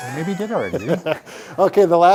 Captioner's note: chuckles